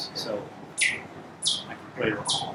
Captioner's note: synthesized tweeting